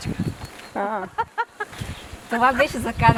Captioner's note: laughter